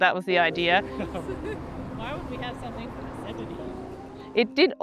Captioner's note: both chatter indistinctly and laugh